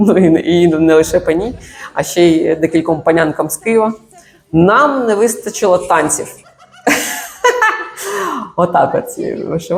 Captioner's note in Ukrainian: сміх